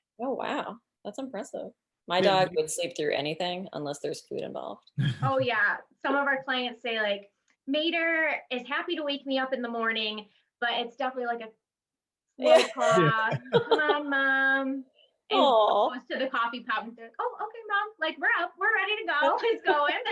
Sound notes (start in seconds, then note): 5.0 laughs; 12.5 laughs drowns out